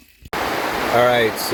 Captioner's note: rain splashes